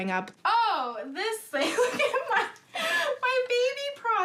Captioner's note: laughs